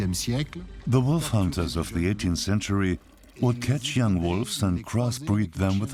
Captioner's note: dubbed in English